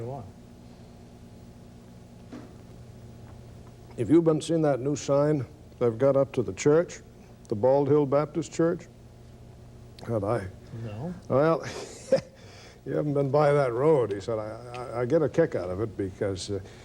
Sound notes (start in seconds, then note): 11.6 laughs